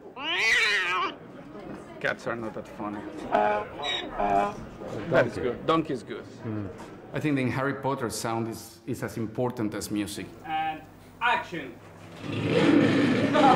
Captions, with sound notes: [CAT YOWLS ON RECORDING] Cats are not that funny. [DONKEY BRAYS ON RECORDING] That is good. Donkey is good. I think in Harry Potter, sound is as important as music. And action.